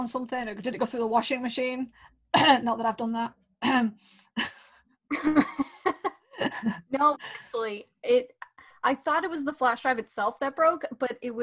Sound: cough

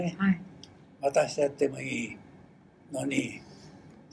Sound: foreign language

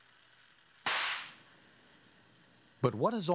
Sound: glass pops

